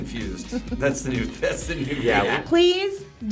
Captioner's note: laughs